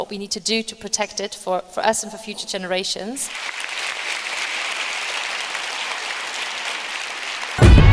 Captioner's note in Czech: Potlesk